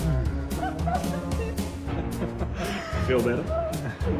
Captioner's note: laughing